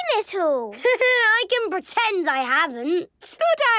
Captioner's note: Danny laughing